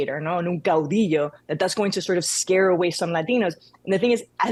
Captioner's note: speaks in Spanish